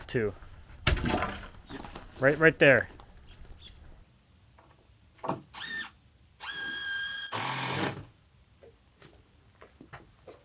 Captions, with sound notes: (wood clattering) Right, right there. (drill whirring)